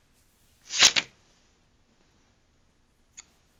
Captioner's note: light bang